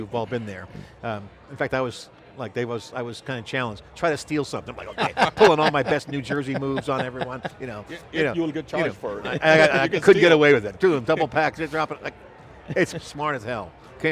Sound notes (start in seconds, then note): 4.9 laughs